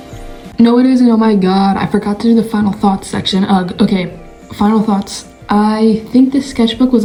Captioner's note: morning voice